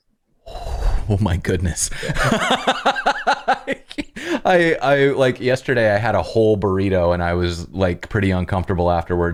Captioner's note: laughter